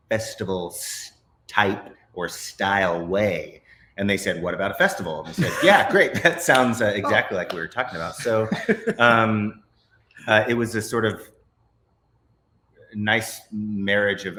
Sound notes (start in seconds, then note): 5.2 both laughs; 8.4 laughs